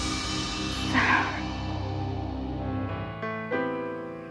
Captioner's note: suspenseful music; sighs; solemn music